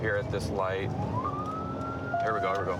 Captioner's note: sirens